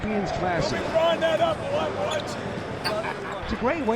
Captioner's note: crowd murmuring